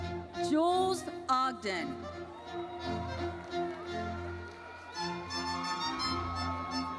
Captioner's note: audience cheers